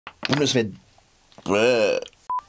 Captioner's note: disgusted noise